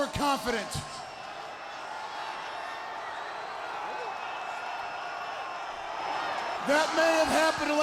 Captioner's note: crowd cheering